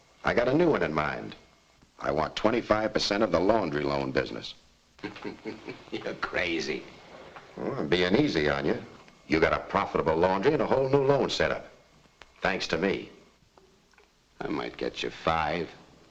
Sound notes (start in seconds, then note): 5.0 laughing